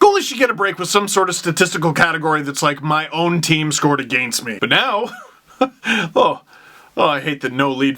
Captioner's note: laugh